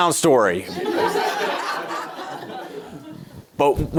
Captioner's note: audience laughing